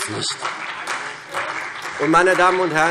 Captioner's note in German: Beifall CDU und BÜNDNIS 90/DIE GRÜNEN